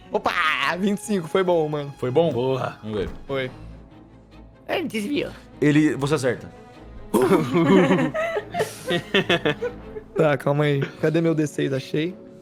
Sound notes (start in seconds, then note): 4.6 mocking; 8.9 laughs